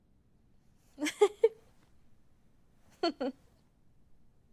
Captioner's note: Kate laughs